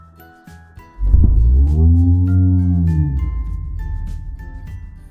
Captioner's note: slow motion sounds